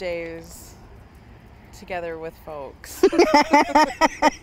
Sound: they laugh together

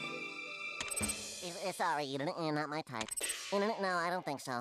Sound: Porky stuttering

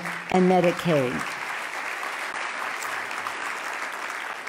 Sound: loud clapping

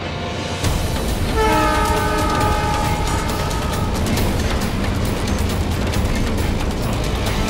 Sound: train horn blaring

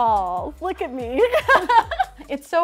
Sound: laughs

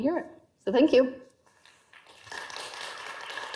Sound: audience applause

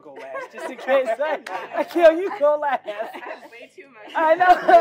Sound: laugh

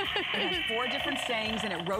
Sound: laughter

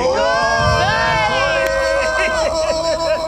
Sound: group screams

